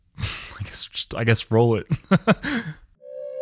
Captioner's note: laughs; eerie music